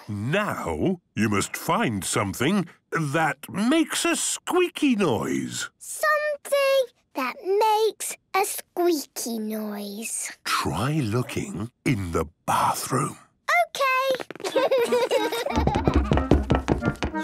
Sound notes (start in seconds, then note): 10.4 whispering; 14.3 Peppa and George laughing; 15.2 loud footsteps